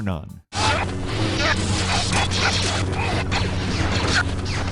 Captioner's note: lasers firing